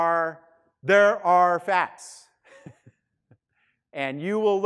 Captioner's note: laughing